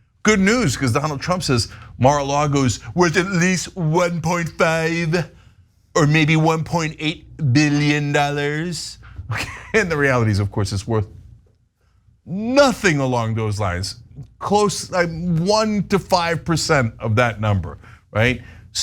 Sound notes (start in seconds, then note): 9.2 laugh